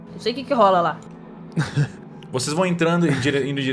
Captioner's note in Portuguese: risada